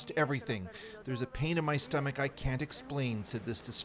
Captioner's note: speaking Foreign Language